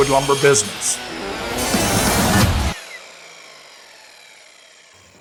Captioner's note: circular saw buzzes